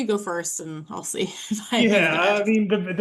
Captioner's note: chuckling